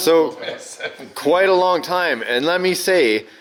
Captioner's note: laughs